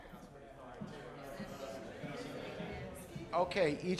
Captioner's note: general chatter